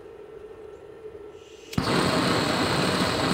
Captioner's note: hissing